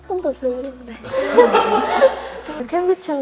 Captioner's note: burst into laughter